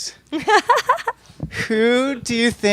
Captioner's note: laughing